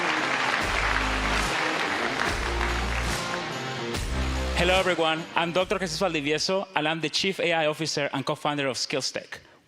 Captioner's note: applause